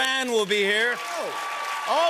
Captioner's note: cheers and applause